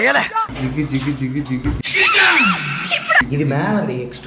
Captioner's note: making sound effects with his mouth